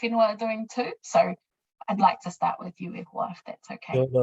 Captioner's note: speaking in foreign language